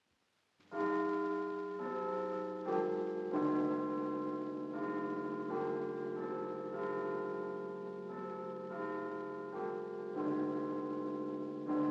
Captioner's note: clocktower chiming